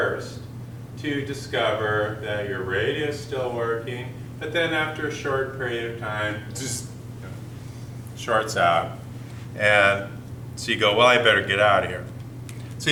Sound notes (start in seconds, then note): 5.8 buzzzz